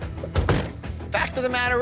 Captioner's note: car doors slamming